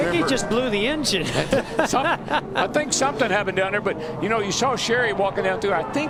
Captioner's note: laughter